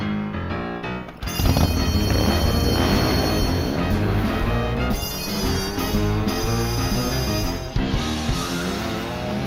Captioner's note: motorcycle engine revs